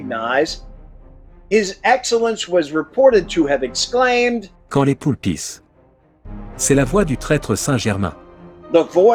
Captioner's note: speaking French